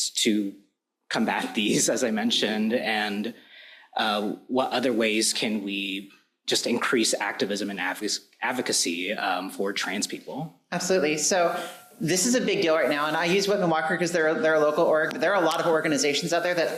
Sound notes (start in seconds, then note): none